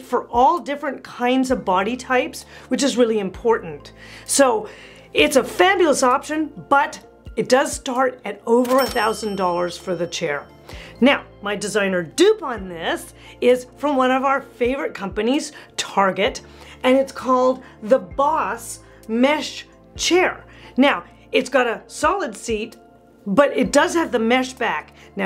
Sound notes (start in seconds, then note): 8.6 bell ringing